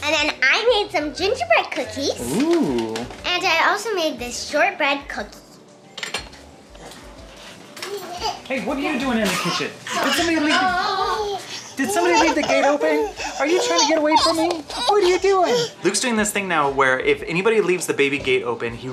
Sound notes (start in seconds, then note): 6.0 object clanks; 7.9 baby cooing